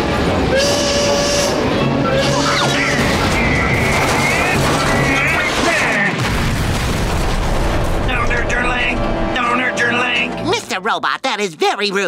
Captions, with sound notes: [train horn blowing] [grunting] Don't hurt your leg! Don't hurt your leg! Mr. Robot, that is very rude.